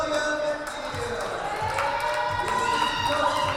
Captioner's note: cheering and applause